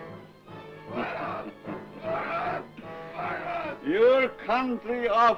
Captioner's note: dramatic music; soft chuckling